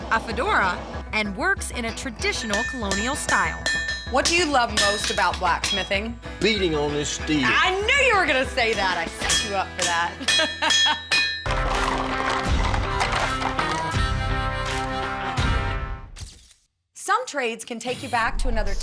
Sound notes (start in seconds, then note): 7.4 pounding; 10.0 laughing